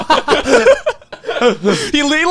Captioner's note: laughing loudly